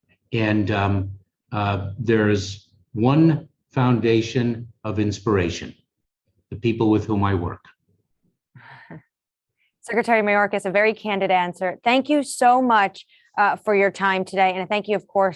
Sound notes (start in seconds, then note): 8.6 chuckles